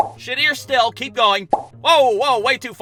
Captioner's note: pop!